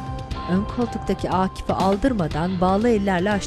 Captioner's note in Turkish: Kapı açılma sesi; Müzik devam ediyor